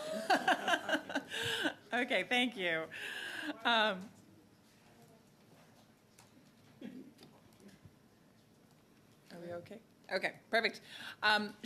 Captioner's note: laughter